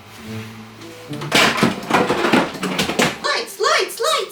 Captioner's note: everything falling over